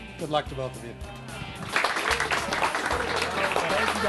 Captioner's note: applause